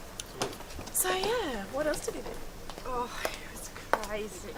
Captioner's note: chatting